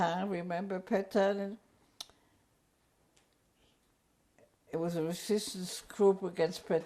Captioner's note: pauses for 3 seconds